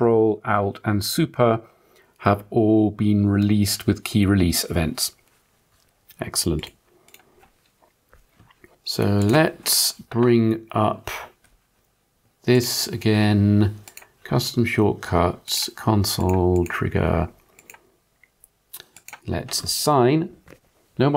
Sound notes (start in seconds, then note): 7.3 blank Audio